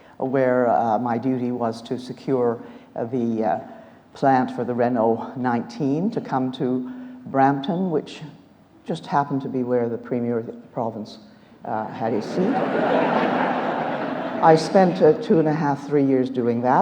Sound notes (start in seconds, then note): 12.2 audience laughs